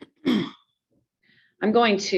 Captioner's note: clears throat